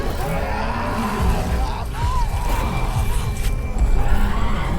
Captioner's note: Dweller growls